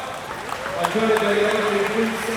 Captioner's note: crowd applauding